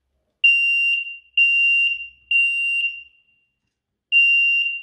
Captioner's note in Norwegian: Røykvarslaren piper